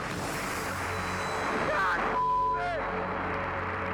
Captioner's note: beep